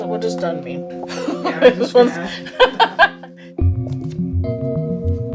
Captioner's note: laughs